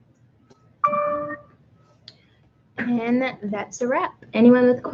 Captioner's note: computer dings